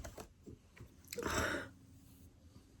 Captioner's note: sighs gravelly